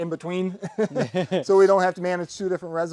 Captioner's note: men laughing